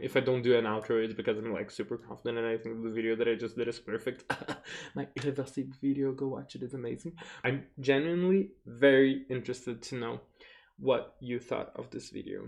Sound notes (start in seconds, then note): 4.3 fake coughing